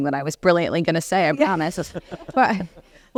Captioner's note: laugh